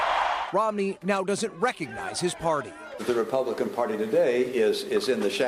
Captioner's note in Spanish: gritos